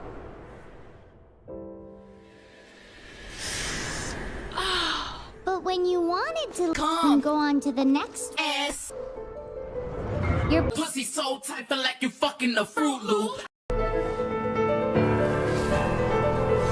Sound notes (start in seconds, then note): 3.0 slurping